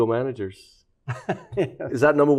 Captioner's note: chuckles